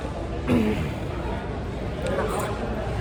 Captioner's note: ahem